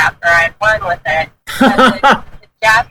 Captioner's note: laughs